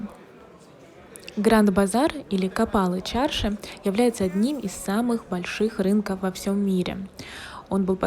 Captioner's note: in Turkish